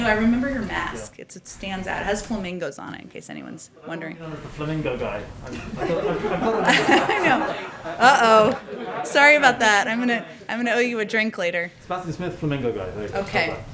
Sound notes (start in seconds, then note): 5.5 laughter